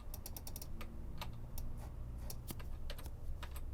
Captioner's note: keys clacking